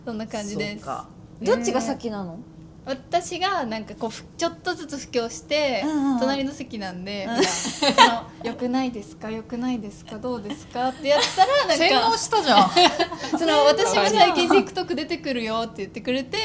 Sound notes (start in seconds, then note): 7.3 laughs